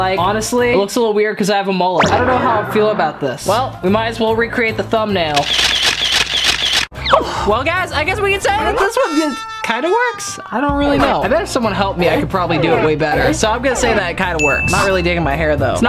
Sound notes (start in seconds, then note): 5.3 camera snapping; 14.4 dinging